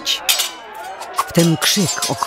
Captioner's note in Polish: szczęk mieczów